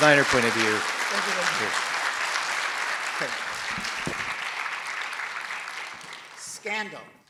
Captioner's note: audience applauds